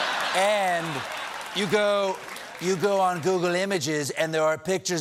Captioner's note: laughter